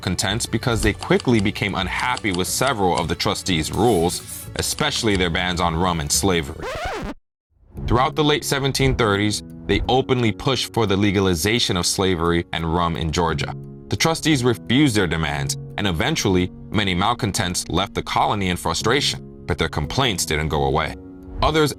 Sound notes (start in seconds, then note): 6.5 disc scratching